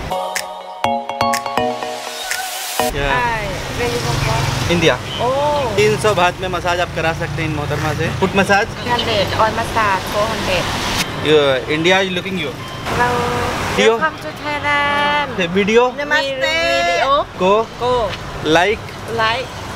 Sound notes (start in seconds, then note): 16.6 speaking